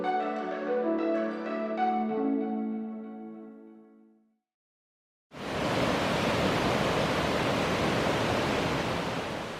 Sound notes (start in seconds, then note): 0.0 chill music; 5.4 river rushing